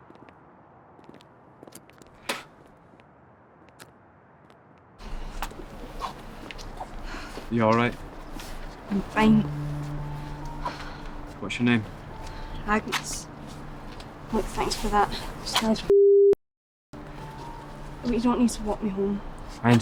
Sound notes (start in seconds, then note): 2.7 spitting